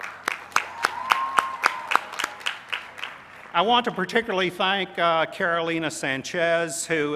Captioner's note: applause